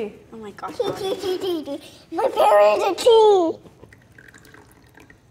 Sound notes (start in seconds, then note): 3.8 tea pouring